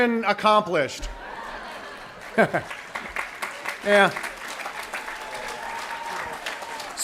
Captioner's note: applaus